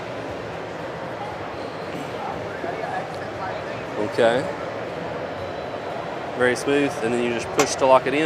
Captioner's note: people Chattering